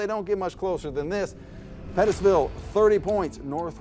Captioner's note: clock ticking